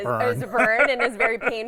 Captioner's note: laughs